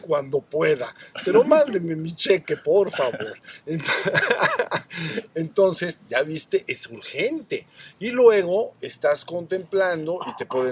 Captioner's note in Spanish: risas